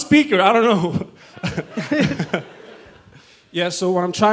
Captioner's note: audience chuckles